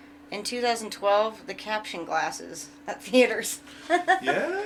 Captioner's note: chuckles